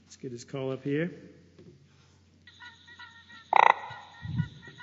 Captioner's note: sounds of frog call